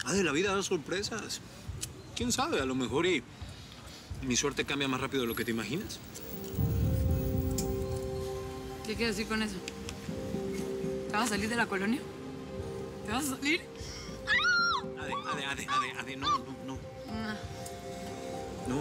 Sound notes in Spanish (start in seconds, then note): 14.2 gritos